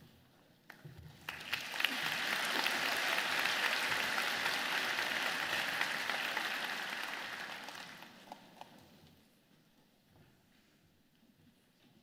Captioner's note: applause